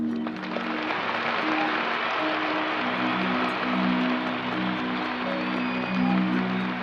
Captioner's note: audience cheers and applauds